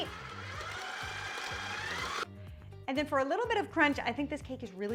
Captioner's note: mixer whirring